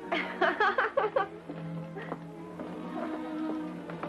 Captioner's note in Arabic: تضحك